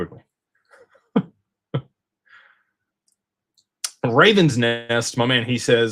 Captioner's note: laughter